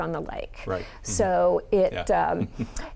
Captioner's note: chuckling